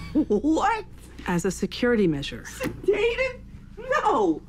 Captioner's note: laughing